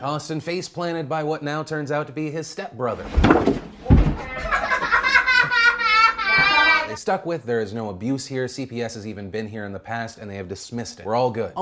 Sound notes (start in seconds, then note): 3.8 loud bump and crying